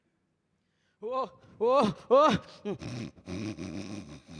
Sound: grunting

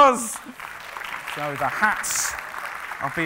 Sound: applauding

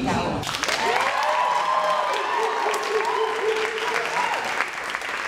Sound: cheering and applauding

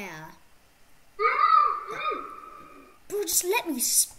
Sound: More Goatman Noises

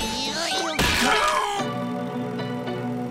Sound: grunting; screaming

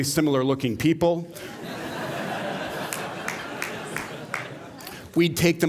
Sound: laughter

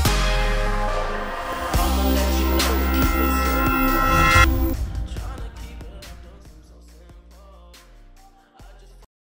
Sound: sound of CB Aviation extro logo

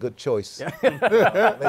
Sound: laughter

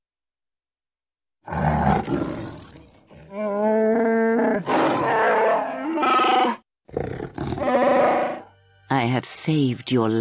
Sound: Angry, confused roars in Wookie

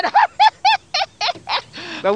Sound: laughs

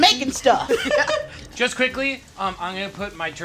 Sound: all laugh

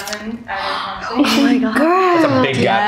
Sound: gasps

